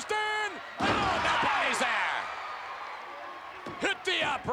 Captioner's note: spectators cheering